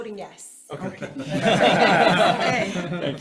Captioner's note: group laughs